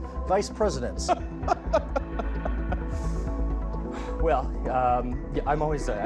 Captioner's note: laughing